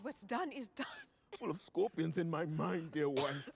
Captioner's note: coughs